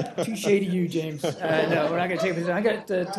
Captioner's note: laughter